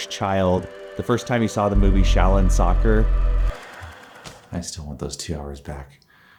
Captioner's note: sigh